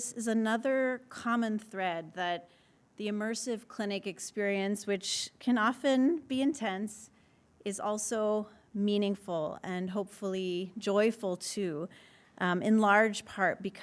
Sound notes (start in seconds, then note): none